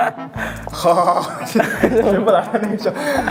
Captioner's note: laugh